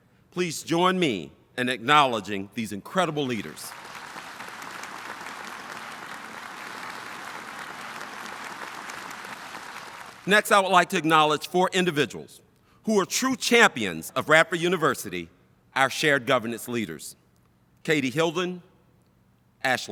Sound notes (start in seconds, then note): 3.6 audience applauding